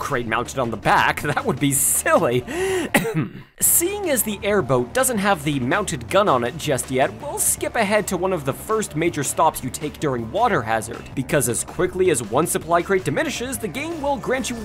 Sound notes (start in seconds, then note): 2.7 ahem